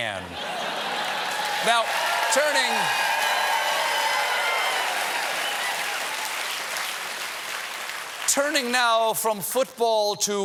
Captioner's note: cheers and applause